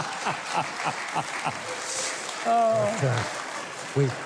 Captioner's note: Mike laughing; audience laughing; audience applauding